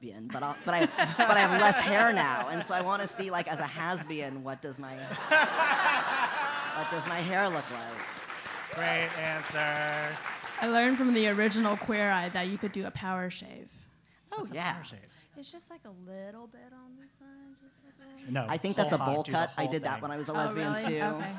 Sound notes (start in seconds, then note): 0.4 laugh; 5.0 laugh; 6.7 applause